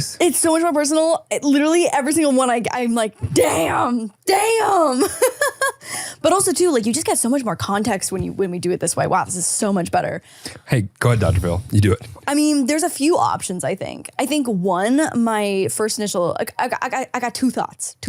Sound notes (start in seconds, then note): 5.1 laughs